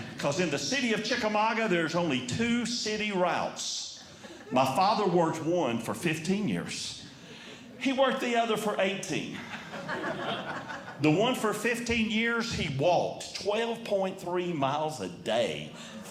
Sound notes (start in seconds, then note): 9.3 audience Laughing